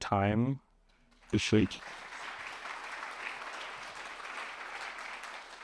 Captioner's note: applause